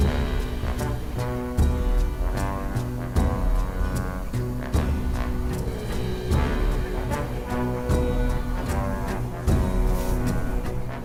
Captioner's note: haha